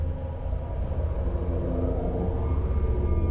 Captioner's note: aircraft noise